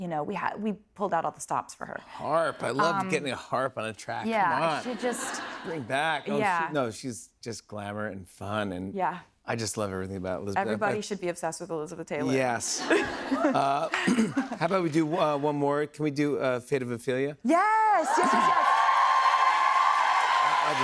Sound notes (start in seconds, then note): 12.7 laughter; 18.0 cheers and applause